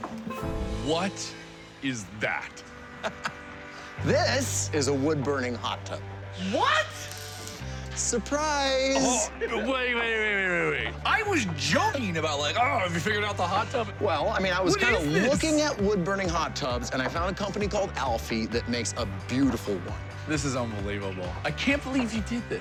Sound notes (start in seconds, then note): 0.0 tense music; 2.8 laughs